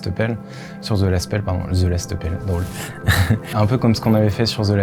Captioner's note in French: rires